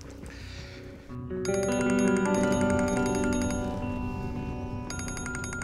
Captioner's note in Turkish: Telefon çalıyor